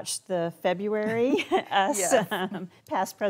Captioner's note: chuckles